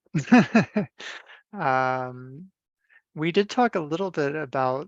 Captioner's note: laughs